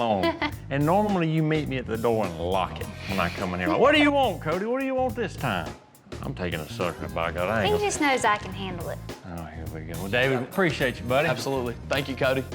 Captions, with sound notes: AND NORMALLY YOU MEET ME AT THE DOOR AND LOCK IT WHEN I COME IN HERE. [LAUGHTER] WHAT DO YOU WANT, CODY? WHAT DO YOU WANT THIS TIME? I'M TAKING A SUCKER, BY GOD, I AIN'T- HE JUST KNOWS I CAN HANDLE IT. OH HERE WE GO. WELL, DAVID APPRECIATE YOU BUDDY. ABSOLUTELY, THANK YOU CODY.